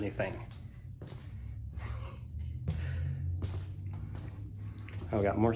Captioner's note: footsteps